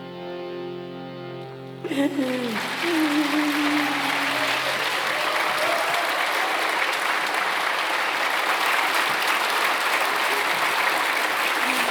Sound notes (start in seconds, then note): 2.7 clapping